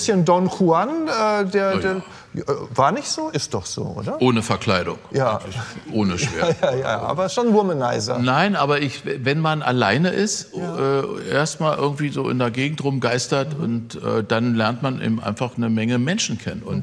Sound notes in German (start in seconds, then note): 5.5 lacht